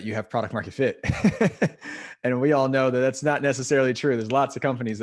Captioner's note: laugh